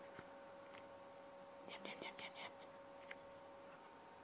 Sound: whispers

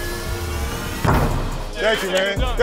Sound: ball dunking

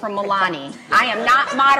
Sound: laughs

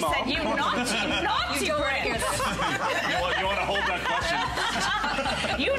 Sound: laughter

